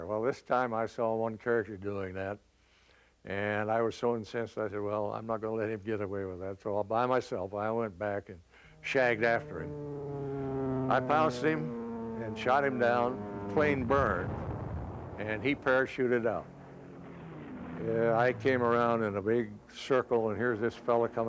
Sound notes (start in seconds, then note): 10.2 engine whistling